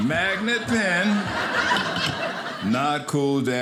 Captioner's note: audience laughing